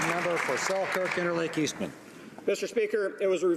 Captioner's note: applause